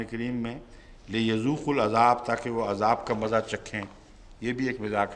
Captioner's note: Arabic